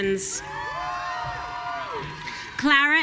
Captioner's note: audience cheering